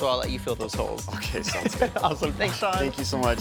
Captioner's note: laughing